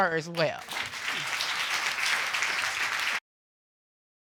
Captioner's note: audience applauding